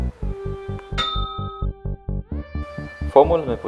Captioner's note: ding